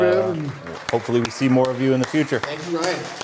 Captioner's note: cheering and Applause